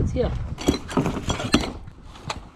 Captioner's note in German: klappern